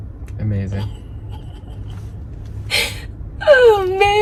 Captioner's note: laughing through tears